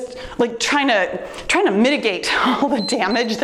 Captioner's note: timer beeps